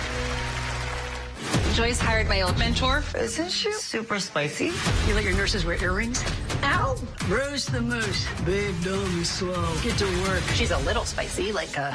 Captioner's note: crowd clapping